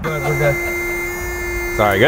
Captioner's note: car buzzes